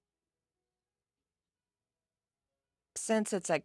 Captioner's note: speaking French